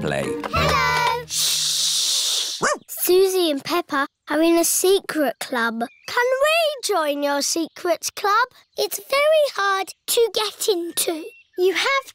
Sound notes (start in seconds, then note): 2.6 barks